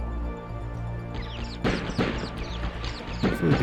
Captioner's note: gun shots